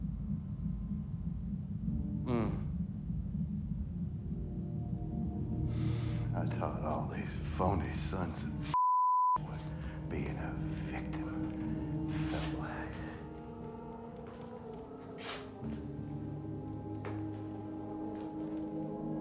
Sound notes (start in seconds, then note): 2.2 groans